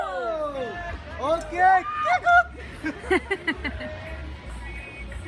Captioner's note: laughter